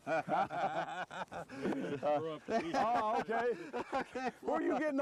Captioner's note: laughter